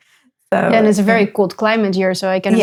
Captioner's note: laughs